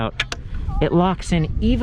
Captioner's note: click